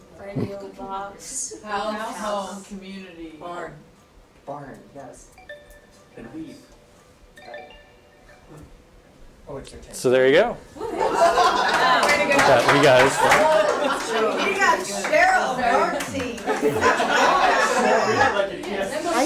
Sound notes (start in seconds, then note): 11.3 audience cheers; 16.4 laughter